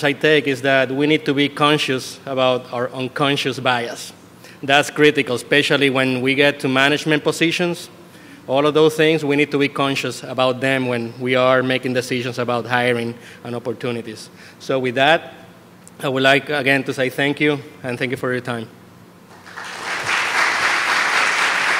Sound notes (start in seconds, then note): 19.3 applause